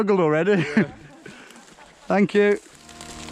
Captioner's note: women laughing